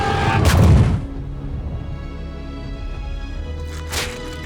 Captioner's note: dragon growls; foot thuds